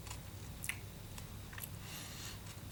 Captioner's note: more eating noises